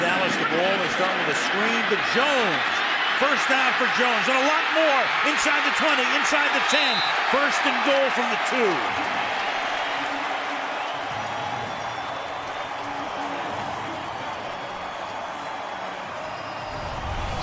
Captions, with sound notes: Dallas ball. This time, the screen to Jones. First down for Jones and a lot more. Inside the 20. Inside the 10. First and goal from the 2. [cheering]